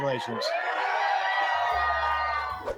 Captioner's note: cheering